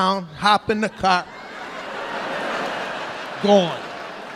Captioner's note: audience laughing